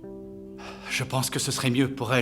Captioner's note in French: soupirs